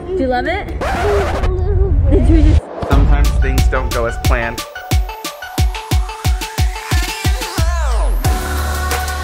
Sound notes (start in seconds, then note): 1.4 crying; 5.0 upbeat music